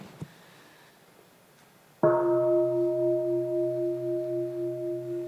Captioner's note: sound of the bell